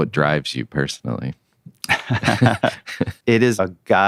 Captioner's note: both laughing